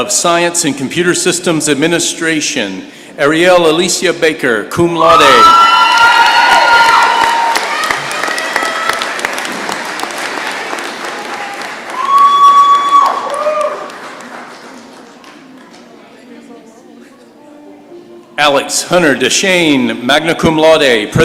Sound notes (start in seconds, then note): 5.0 cheering and applause